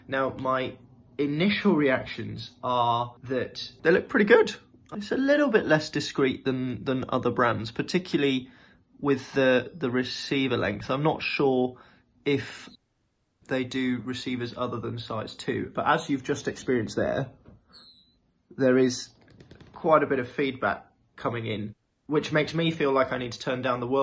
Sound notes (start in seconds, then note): 17.6 hearing aid screeching